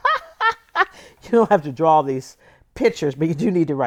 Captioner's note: laughter